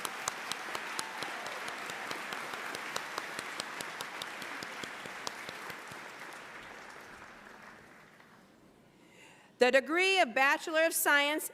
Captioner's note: applause